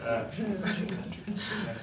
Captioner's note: laughs